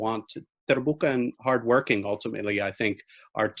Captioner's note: speaking in foreign language